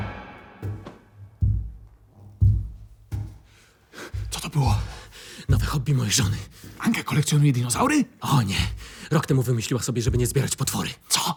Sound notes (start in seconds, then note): 0.6 pounding feet